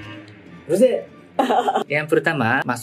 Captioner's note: laughs